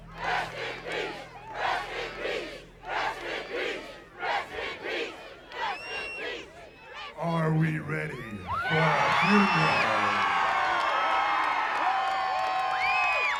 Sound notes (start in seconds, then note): 9.3 crowd cheering